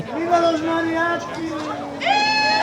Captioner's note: speaking in foreign language; loud cheering